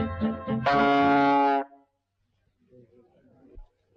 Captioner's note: horn bleating